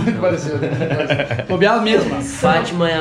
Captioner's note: laughing